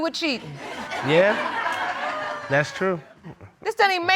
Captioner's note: audience laughing